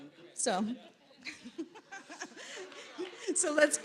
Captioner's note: laughs